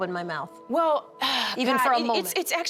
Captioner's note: sighs